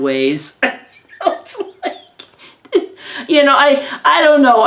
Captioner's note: giggles